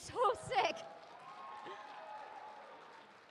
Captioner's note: applause